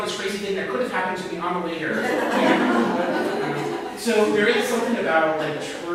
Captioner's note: audience laughter